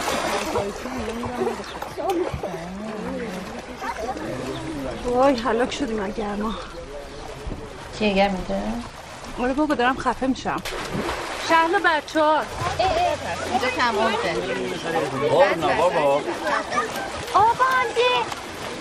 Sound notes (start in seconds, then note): 0.0 water splashing; 0.0 roar of chatter; 10.5 water splashing